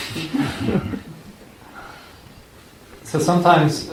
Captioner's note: laughter